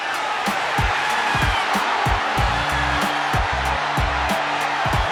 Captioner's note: cheering